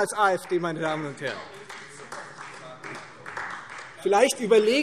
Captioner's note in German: Beifall Freie Demokraten - Zurufe AfD